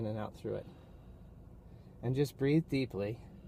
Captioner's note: breathing